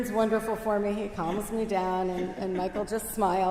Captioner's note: laughs